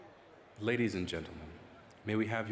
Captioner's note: voiceover